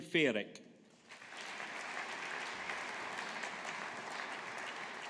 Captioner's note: audience applauding